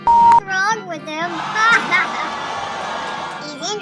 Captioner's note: laughing